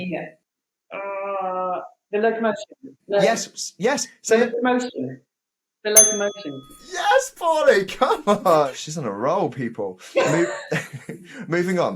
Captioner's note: bell dings